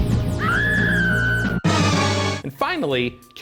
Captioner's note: dramatic game music; screams